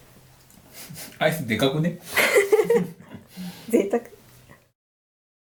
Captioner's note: laughs